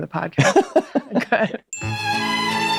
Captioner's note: Glenn laughs